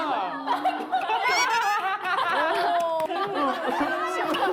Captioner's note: laughing